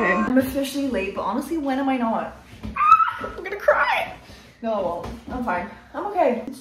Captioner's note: screams